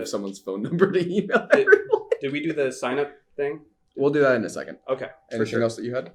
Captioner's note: laughter